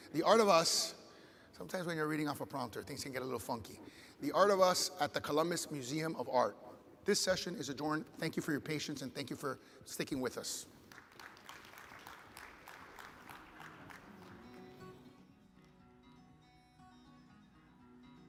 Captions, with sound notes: "The Art of Us." Sometimes when you're reading off a prompter, things can get a little funky. "The Art of Us" at the Columbus Museum of Art. This session is adjourned, thank you for your patience and thank you for sticking with us. (audience applauds) (upbeat music begins)